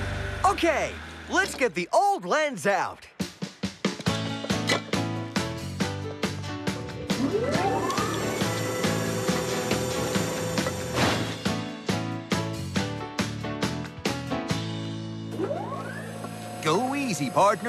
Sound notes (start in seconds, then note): 4.4 clink!; 7.1 whirring; 10.6 clank!; 15.3 hydraulic Whirring